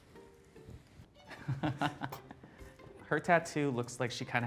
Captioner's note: laughs